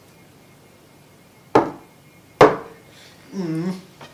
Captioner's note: knock knock